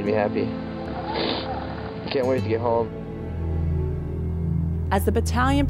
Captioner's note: snif